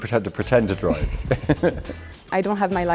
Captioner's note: laughing